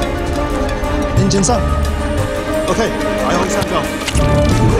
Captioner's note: foreign language; upbeat music